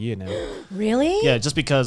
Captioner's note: gasping